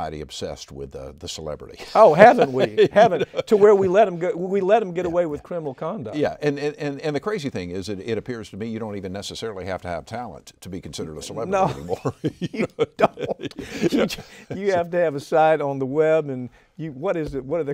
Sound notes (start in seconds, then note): 11.5 both laughing